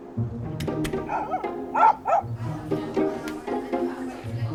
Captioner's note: whimsical music; dog barking